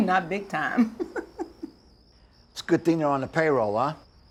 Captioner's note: chuckles